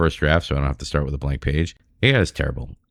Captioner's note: uh